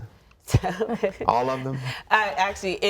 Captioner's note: laughing